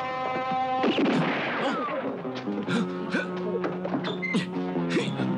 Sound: gun blasts; man gasps; clattering; man grunting

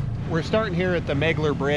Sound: boat engine running

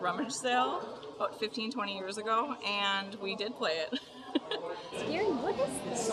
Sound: laughs

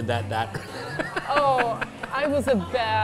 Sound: laughs

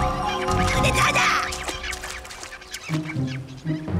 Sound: squeaking

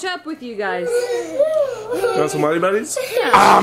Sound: people exclaiming

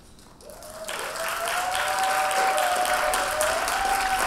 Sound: audience applauding

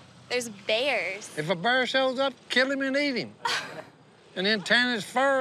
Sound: chuckles

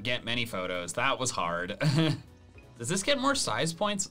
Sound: laughs

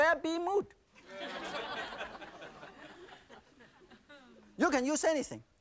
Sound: audience laughing

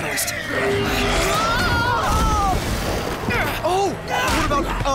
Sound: screaming

